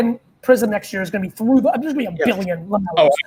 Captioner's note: fumbles